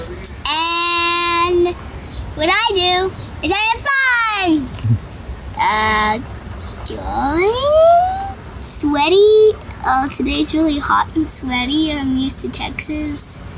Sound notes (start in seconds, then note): 0.5 excitedly; 6.9 uncertainly